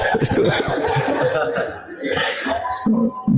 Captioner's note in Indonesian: tertawa